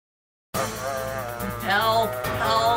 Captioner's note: ted groans